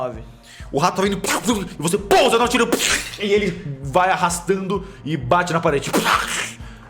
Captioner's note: pow